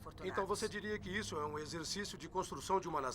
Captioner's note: voiceover